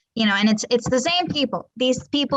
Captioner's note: hands knocking